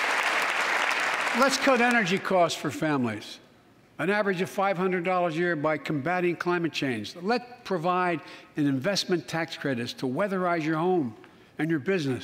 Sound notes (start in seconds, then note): 1.9 applause